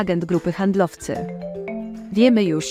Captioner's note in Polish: dzwonek telefonu